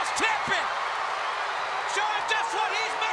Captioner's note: crowd cheering